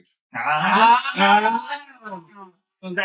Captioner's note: all Yelling